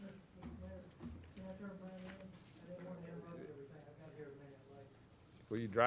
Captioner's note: speaking off mic